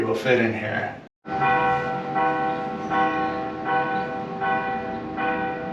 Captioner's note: church bells ringing